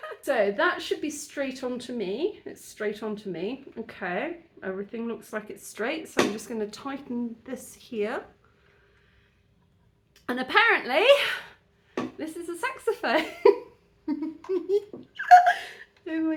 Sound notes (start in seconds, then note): 0.0 laughing; 14.0 giggling